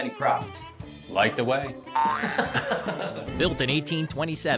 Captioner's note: laughs